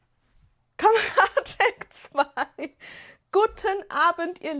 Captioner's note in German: gelächter